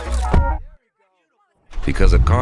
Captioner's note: muffled sounds of people outside